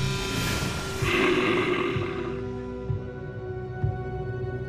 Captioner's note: bear growling